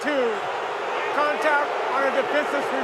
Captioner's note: crow booing